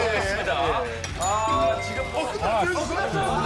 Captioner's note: end bell rings?